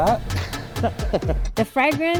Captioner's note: laughing